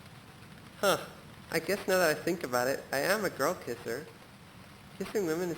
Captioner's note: speaker, distorted